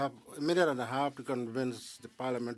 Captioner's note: speaking French